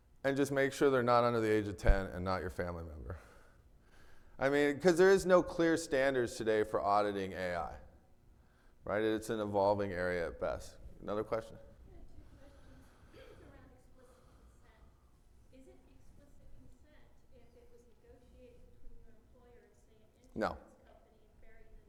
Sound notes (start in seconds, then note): 13.1 clears throat